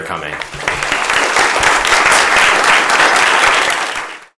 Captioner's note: applause